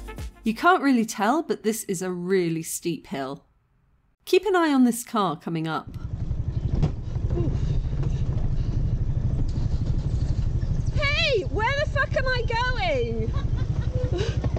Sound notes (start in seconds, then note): 6.0 bump; 13.0 laughter